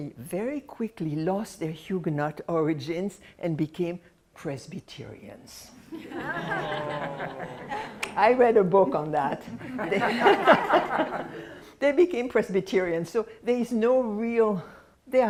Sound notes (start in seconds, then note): 5.9 laughter; 9.5 laughs